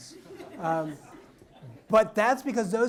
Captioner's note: audience laughs